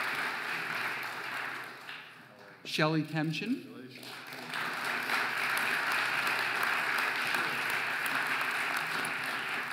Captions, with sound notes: Shelley Temchin (audience applauding)